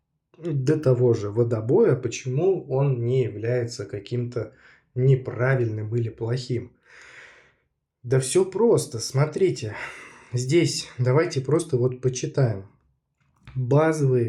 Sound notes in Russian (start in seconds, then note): 9.7 вздыхает; 9.7 тяжело вздыхает